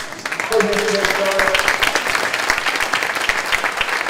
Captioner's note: clapping